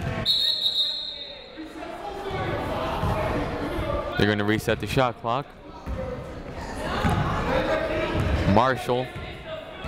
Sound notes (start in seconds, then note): 0.2 whistle